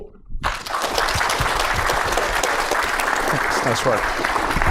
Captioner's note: applause